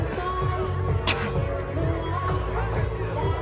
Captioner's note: coughs